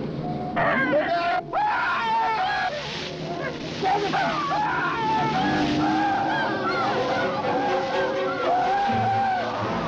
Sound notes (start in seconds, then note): 0.6 Joe screaming; 5.5 tense music